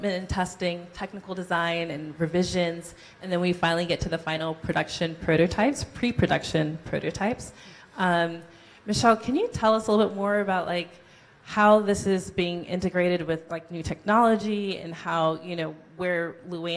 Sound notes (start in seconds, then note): none